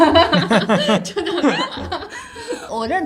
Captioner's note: laughter